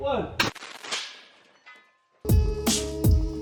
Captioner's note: banging; soft techno music